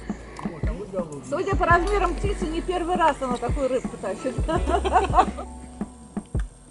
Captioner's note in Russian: смех